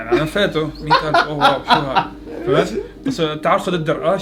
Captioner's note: laughing